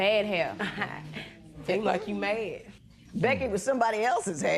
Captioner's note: chuckles